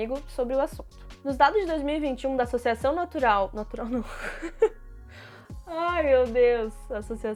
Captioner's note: laughing in despair